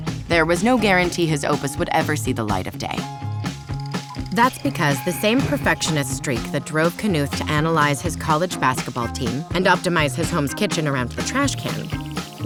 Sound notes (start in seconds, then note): 3.3 film projector rolls